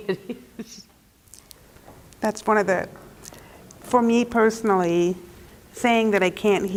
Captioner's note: laugh